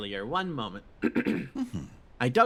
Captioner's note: clears Throat